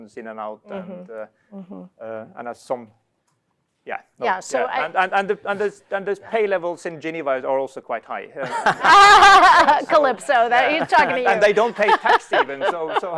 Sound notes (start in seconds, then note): 8.4 laughter